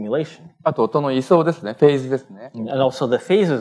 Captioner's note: speaking japanese